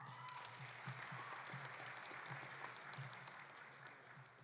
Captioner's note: audience applauding